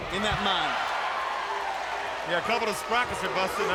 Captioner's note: crowd cheering